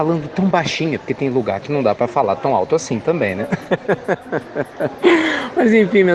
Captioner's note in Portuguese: Risos